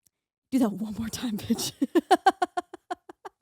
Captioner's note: laughing